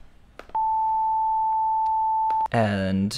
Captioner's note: higher Beep Sound